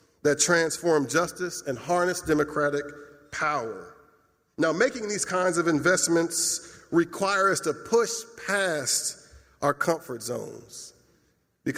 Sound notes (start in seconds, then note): none